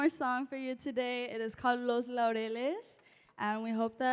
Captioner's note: non-english